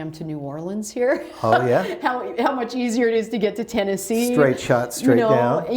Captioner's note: laughter